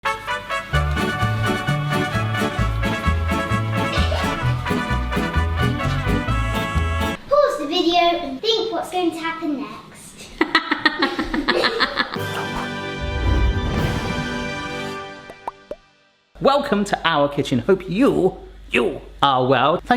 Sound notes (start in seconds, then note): 0.0 lively upbeat music; 10.3 laughs; 12.1 soft Music